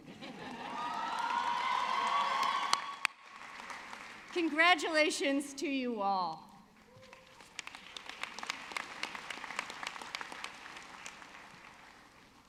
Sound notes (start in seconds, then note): 0.0 audience laughing; 6.7 audience clapping